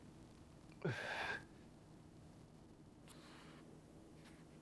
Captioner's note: crying